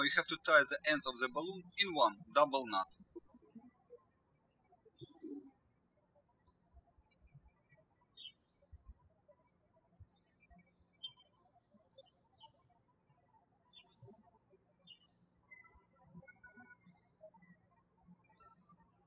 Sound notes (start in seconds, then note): 4.5 birds chirping